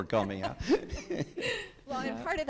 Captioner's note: judges laughing